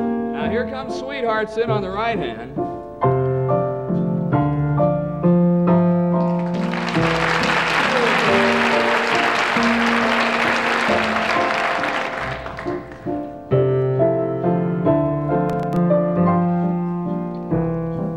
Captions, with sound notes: - NOW HERE COMES "SWEETHEARTS" IN ON THE RIGHT HAND (AUDIENCE APPLAUDS)